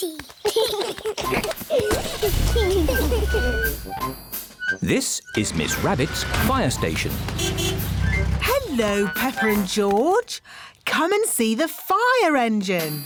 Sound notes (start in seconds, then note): 0.0 both giggling; 7.2 horn honks